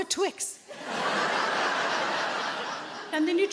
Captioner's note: audience laughing